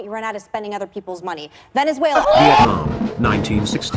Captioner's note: crowd: OHHH; military music